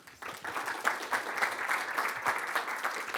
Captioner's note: applause